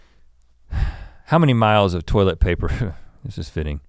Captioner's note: sighs